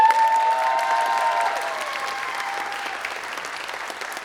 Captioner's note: applause